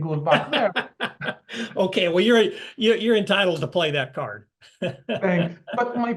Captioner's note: laugh; laugh